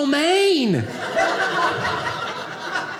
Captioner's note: audience laughing